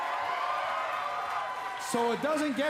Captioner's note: cheers & applause